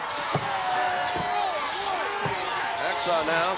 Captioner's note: Hacksaw yelling